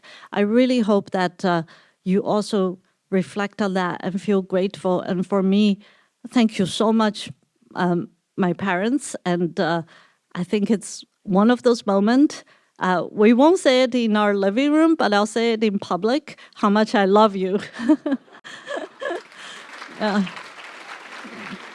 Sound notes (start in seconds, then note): 17.7 laughs; 18.4 applause